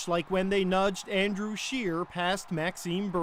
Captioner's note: cheers and Applause